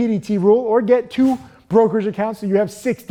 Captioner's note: air whooshing